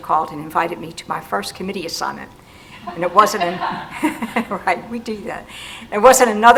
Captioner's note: laugh